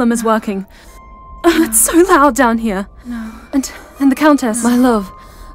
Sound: wincing

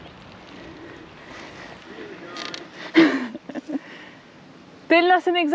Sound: laughter

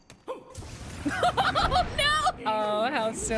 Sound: laughing

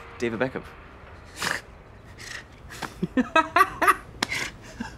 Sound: laughter

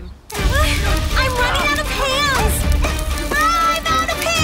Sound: bugs clicking

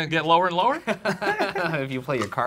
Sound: laughing

